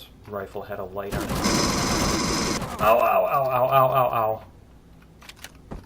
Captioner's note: alien gunfire; pulse rifle; weapons click